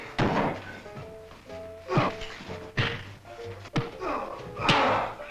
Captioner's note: men grunting